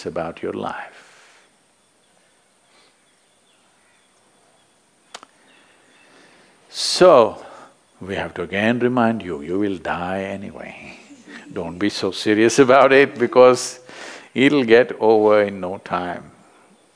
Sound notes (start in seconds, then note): 10.6 laughs